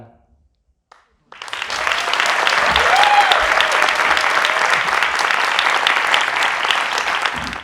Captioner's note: applause